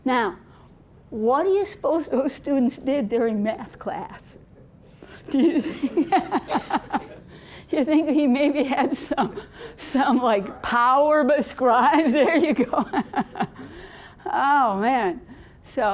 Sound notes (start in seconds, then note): 5.1 laughing; 12.0 laughing